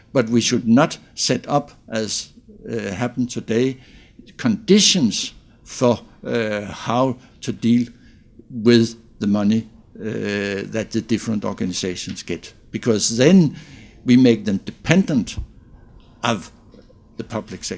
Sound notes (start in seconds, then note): none